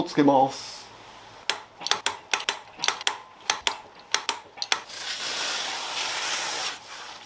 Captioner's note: working sound